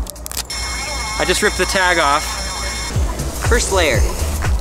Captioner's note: electronic music; sirens wail